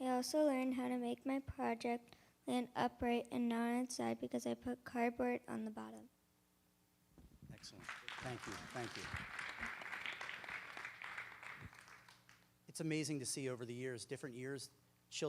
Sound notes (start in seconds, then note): 7.6 applause